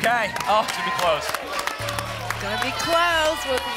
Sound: applause

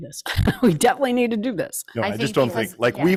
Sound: laughs

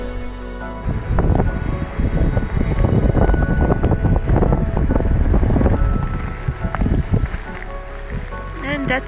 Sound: sound of wind and zipper opening

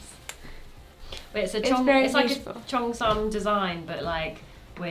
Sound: speaking in foreign language

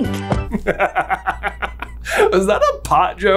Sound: giggles

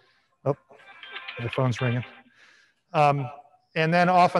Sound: phone ringing

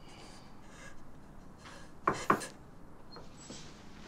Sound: crying; knocks

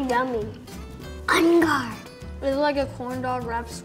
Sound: pirate sounds

